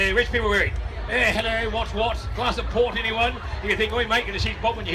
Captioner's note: posh voice